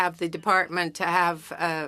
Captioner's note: speaking French